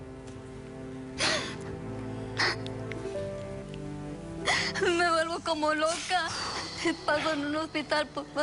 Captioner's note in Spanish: Sollozos